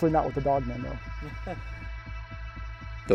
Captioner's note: chuckling